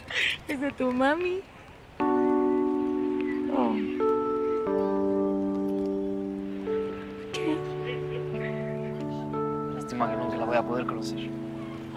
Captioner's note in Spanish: Ríe